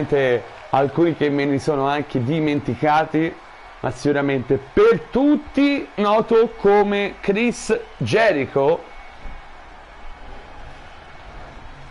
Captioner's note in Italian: Applauso